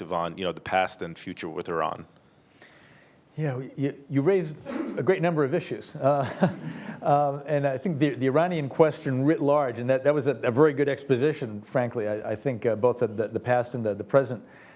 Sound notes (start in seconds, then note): 6.2 all laugh